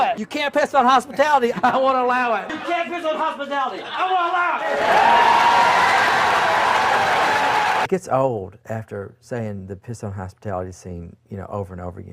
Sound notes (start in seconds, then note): 3.9 crowd cheers